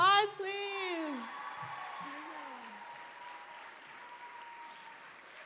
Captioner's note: applause